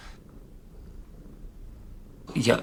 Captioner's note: cat purring